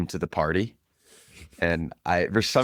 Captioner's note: laughs